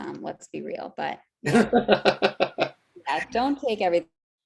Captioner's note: laughing